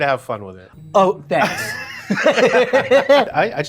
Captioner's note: laughing